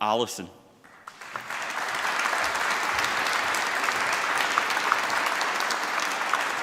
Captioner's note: applause